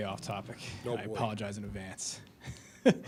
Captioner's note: laughs